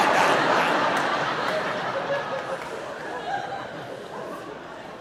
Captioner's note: audience laughing